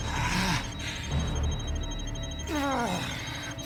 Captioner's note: beeping